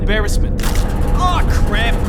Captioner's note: snap